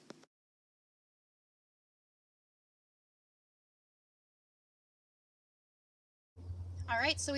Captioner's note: silent credits